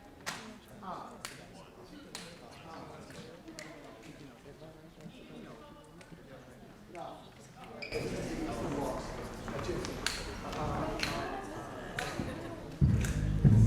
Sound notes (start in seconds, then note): 1.3 snapping; 13.1 jazz music